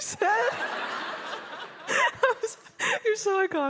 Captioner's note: all laughing